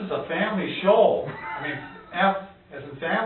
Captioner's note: laughs